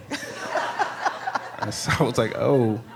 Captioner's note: audience laughing